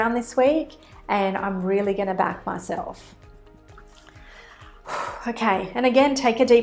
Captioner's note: exhales